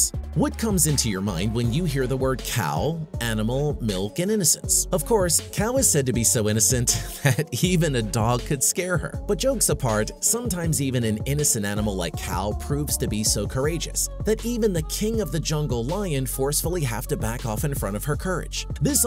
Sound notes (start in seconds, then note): 6.9 slight Laugh